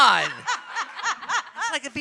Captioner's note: audience and panelists laughing